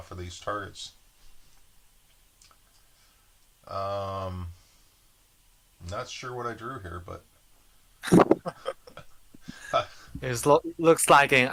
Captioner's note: laughs